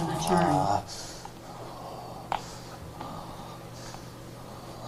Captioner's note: man growling